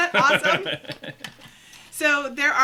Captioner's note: laughing